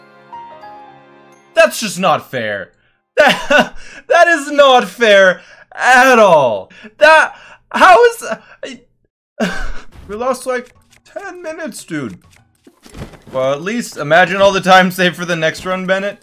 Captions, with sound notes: That's just not fair! [laugh] That is not fair at all! That- how is- We lost like 10 minutes dude! Well at least- imagine all the time save for the next run, Bennett?